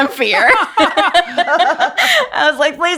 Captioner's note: laughing